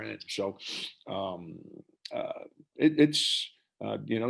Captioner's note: murmurs